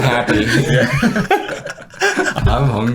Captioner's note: everyone laughs